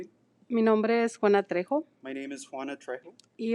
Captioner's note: speaking in foreign language